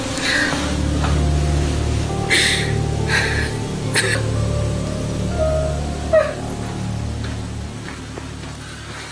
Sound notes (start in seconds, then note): 1.8 sobbing